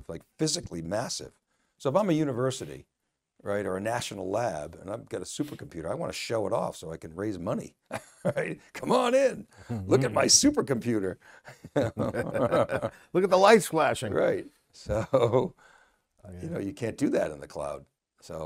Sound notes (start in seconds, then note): 11.5 laughter